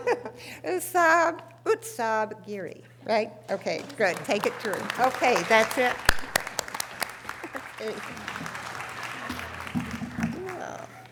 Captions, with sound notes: Usob, Usob Geary. Right? Okay, good, take it through. Okay, that's it? (audience applause)